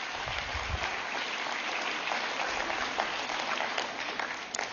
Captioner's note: applause